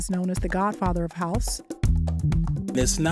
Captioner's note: soundbite of archived recording